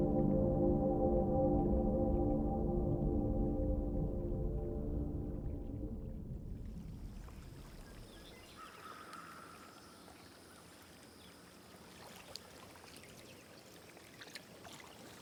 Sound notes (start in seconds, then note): 7.8 birds chirping; 11.6 water sloshing